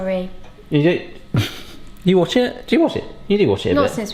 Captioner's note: laughs